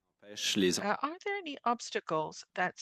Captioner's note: speaking French